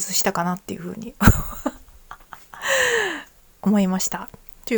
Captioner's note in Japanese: 笑い; 息をのむ音